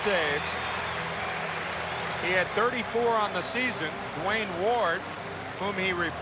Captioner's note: applause